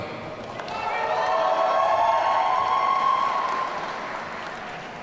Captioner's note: audience cheering